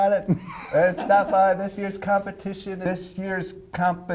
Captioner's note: laughing